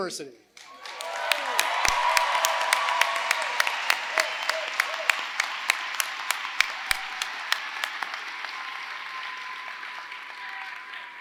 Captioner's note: applause